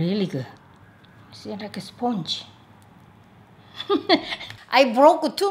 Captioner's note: laughs